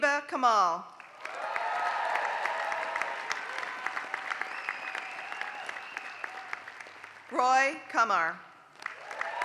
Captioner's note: applause; applause